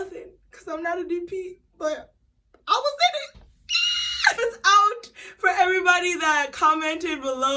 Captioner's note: screams in delight